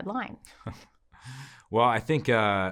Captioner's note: chuckles